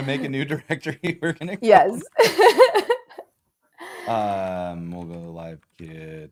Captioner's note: laughter